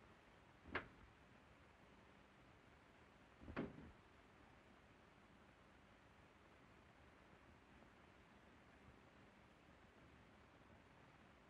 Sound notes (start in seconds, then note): 3.4 door closing